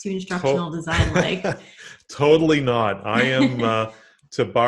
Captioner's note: laughs